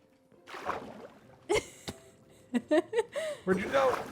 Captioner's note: laughs